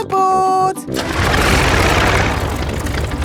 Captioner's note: plane engine starts